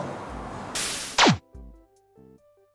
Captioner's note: air whooshing; gentle music